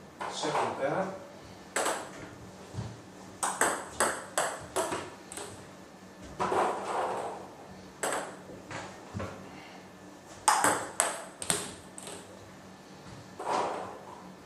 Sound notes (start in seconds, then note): 3.4 balls ping pong hitting